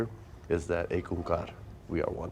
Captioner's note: speaks foreign language